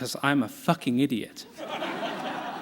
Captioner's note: laughter